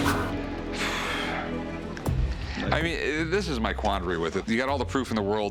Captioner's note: heavy sigh